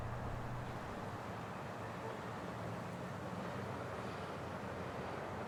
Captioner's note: traffic noise